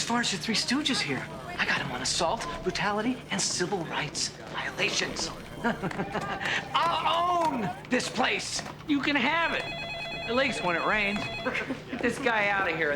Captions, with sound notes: And as far as your Three Stooges here, I got 'em on assault, brutality and civil rights violations. (chuckling) I'll own this place! - You can have it. It leaks when it rains. (all laughing)